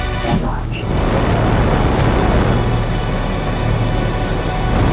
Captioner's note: rocket engines roaring